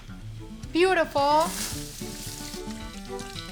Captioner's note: sizzling